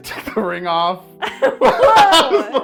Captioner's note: laugh